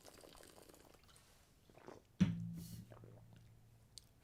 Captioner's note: silence